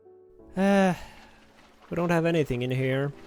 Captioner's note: sigh